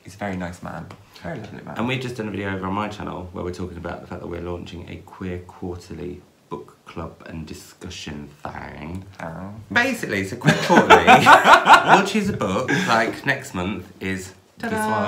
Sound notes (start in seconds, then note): 10.5 laughs